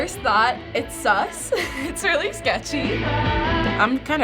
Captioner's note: giggling